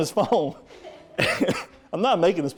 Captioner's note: audience laughing